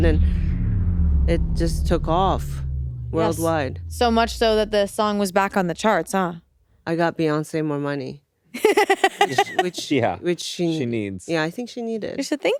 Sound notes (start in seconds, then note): 8.5 laughing